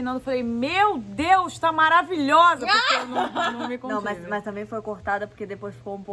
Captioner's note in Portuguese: laughing